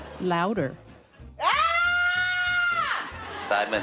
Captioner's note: screams